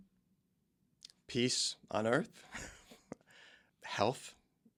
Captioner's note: chuckles